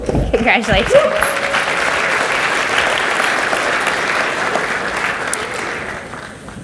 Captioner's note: audience cheers and applauds